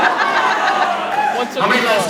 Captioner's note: laughs